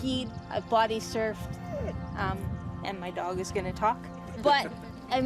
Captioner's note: dog whines